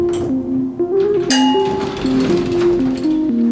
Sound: elevator bell rings and door opens

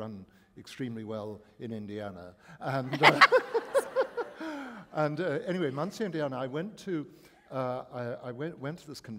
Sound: laughter

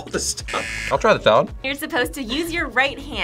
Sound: buzzer

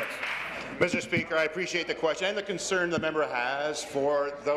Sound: applause

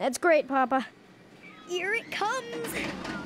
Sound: groaning

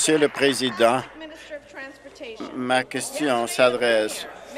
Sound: applause

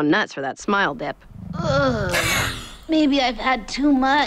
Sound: groans; chuckles

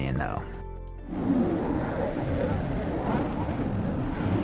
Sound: soft whooshing

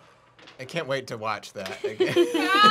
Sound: laughing

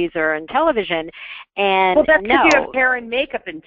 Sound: voiceover

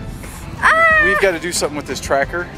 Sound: screams

